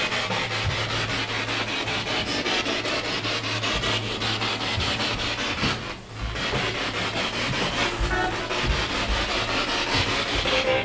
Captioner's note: radio noise from the spirit box